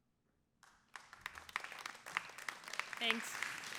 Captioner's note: applause